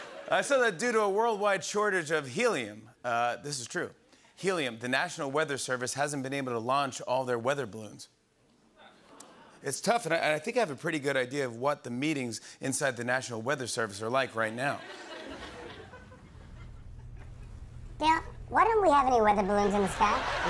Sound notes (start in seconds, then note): 0.0 laughter; 14.7 laughter; 17.7 high-pitched voice; 20.3 high-pitched voice